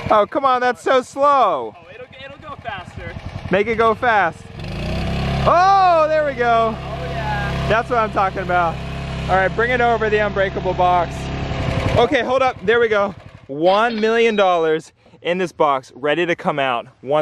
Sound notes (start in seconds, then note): 4.4 machine whirring increases